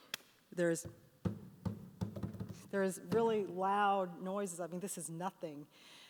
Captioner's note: banging